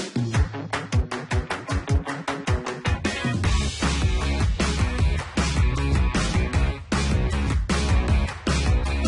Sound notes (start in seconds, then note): 5.1 audience applauding